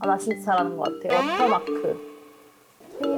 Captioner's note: found something sound effect